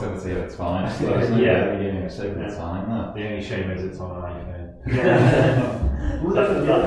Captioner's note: everyone laughs